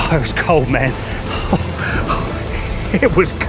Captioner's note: panting